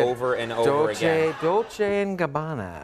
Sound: applause

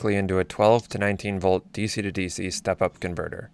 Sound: none

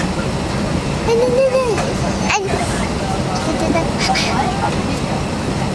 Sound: vocalizing

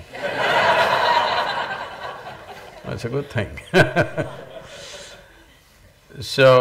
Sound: laughter; laughs

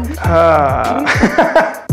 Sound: laughs

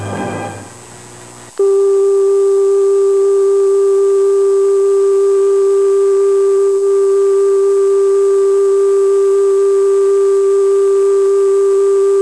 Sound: test card and beep

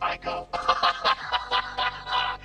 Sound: laughs

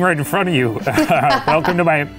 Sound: laughs

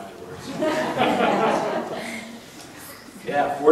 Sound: audience laughing

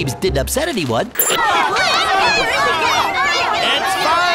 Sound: panicked shouts

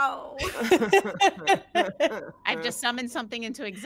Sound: all laughing

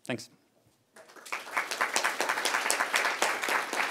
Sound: applause

